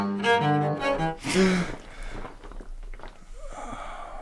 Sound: David gasps for air

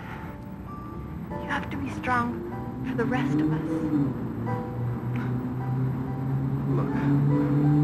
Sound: loud motorcycle revs

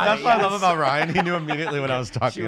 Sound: laughs

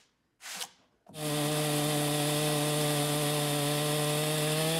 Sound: saw buzzing

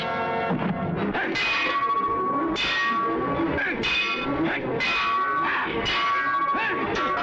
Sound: thud

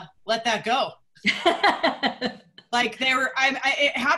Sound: laughter

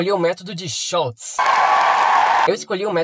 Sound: huge applause

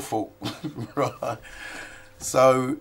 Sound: laughs

